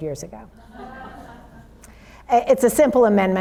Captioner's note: audience laughs